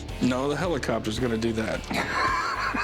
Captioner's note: laughs